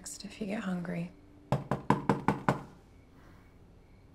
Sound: knock at door

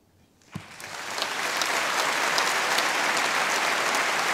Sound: audience applauding

